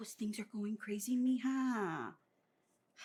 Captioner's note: Spanish